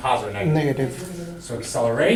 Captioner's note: voiceover